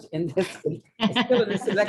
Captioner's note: laughter